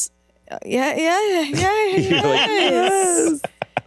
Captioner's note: everyone laughs